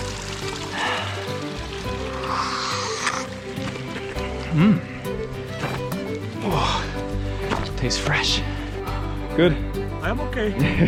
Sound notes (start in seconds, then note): 2.0 slurps